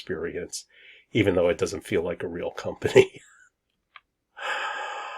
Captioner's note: laughs